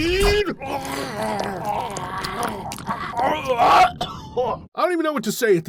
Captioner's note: vomit and coughing sounds